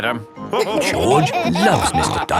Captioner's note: all laughing